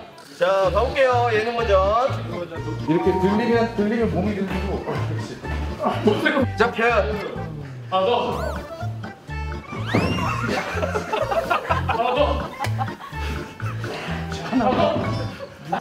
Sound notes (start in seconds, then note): 9.8 can't stop laughing